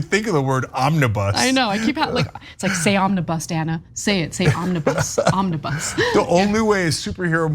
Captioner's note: laugh